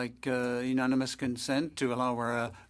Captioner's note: speaking French